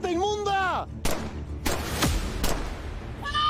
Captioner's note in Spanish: Disparos